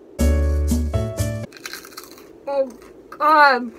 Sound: crunching sound

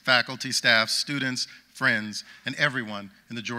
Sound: none

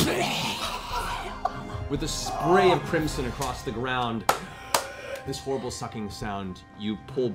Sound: death rattle

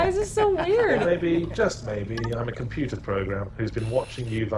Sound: voiceover

